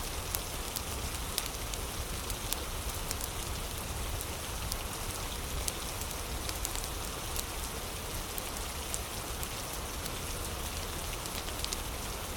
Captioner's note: fire crackling; fire crackling